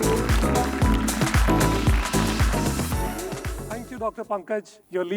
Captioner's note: audience applauding; bright music